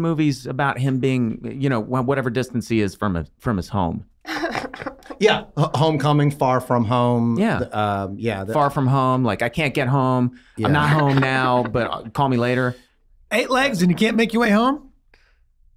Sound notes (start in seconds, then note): 4.2 laughing